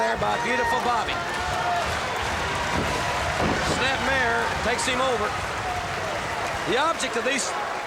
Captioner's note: applause